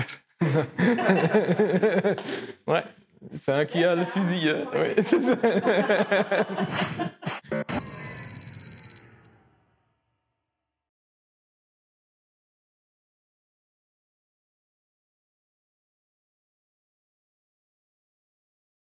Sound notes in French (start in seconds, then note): 0.0 bafouille; 0.4 rire; 4.8 rire